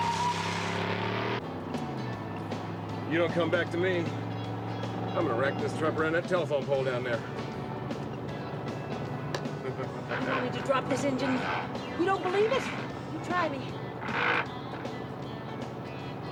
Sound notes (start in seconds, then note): 9.6 steve chuckling; 14.1 rattling